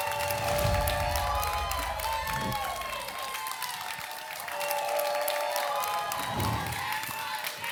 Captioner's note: applause and cheering